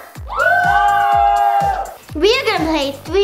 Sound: whooping

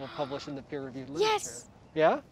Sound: gasps

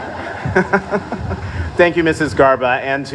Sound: laughter

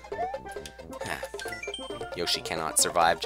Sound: sigh

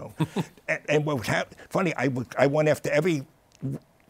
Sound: laughs

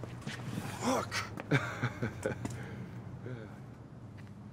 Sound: chuckling

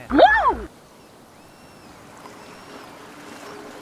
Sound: seagulls calling, waves splashing

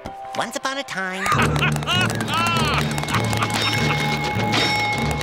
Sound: laughing

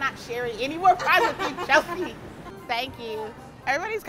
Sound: laughs

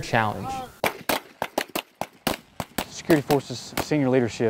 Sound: gunshots

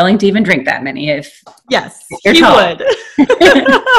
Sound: laughing

